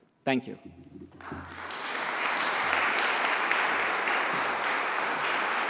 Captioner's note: audience applauds